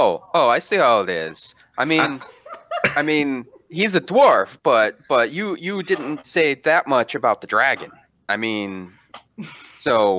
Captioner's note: laughter